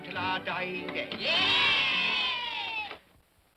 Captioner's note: children cheer